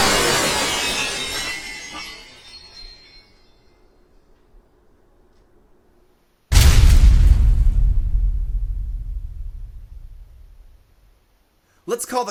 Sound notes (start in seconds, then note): 0.0 whoosh and crash; 6.5 door slams